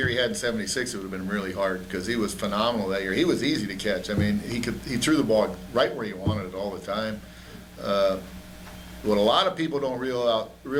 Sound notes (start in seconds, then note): none